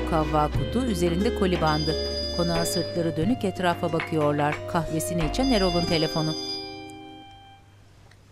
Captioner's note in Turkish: Telefon zil sesi